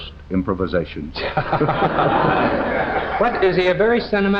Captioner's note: all laughing